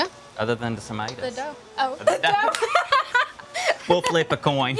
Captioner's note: laughs